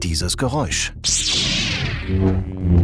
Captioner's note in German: Lasergeräusche